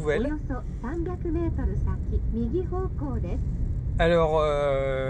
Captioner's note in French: son du GPS en japonais